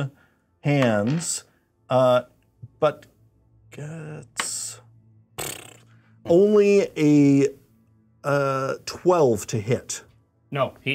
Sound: blows raspberry

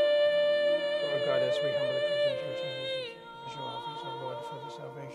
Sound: priest murmuring

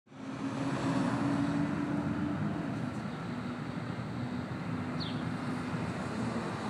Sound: traffic humming; birds chirping

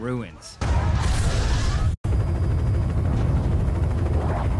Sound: bomb explodes

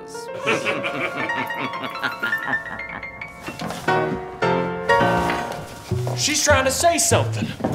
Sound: laughing

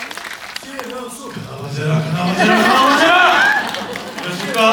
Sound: chanting a spell

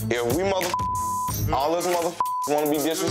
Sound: beep

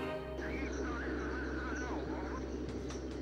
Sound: murmuring; gentle instrumental music

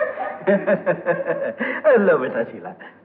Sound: laughing

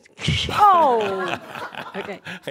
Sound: laughter

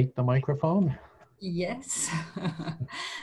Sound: laughing

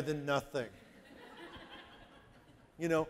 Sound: audience laughing

